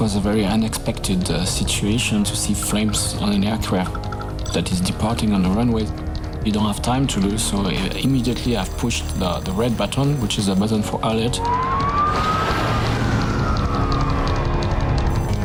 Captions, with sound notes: - This was a very unexpected situation to see flames on an aircraft that is departing on the runway. We don't have time to lose, so immediately, I've pushed the red button, which is a button for alert. (sirens sounding)